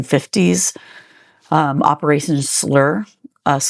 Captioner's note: slur